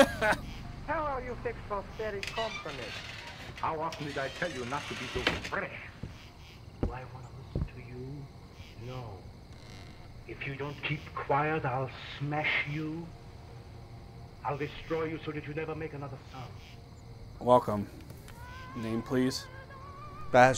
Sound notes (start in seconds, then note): 0.0 clerk laughs; 2.3 door opens. Footsteps